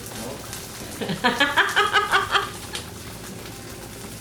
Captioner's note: laughs